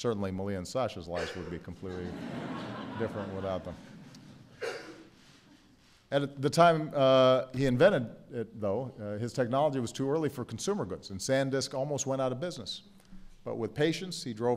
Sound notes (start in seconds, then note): 6.0 laughter